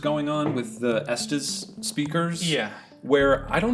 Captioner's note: sighing